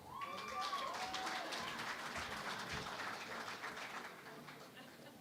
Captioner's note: cheering and Applause